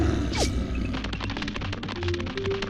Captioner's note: growling; scurrying